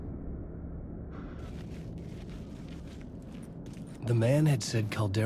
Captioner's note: distant sirens